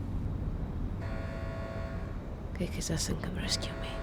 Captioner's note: alarm blaring